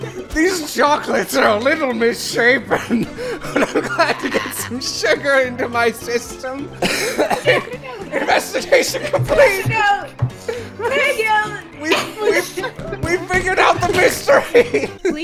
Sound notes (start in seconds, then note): 6.8 coughing laughter